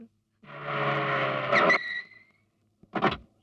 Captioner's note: brakes squeal